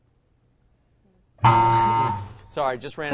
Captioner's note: error buzzer